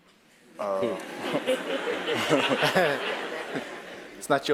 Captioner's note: laugh